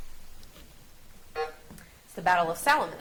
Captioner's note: buzzer buzzes